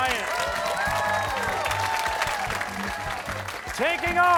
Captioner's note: cheering